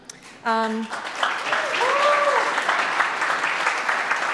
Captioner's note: audience claps